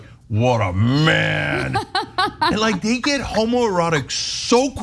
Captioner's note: laugh